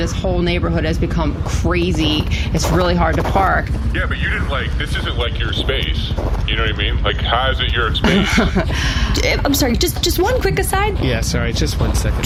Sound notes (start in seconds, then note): 8.0 laughs